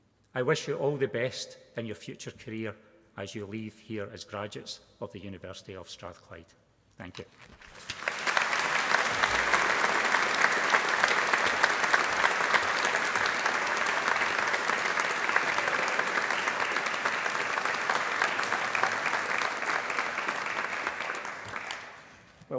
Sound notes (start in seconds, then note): 7.6 applause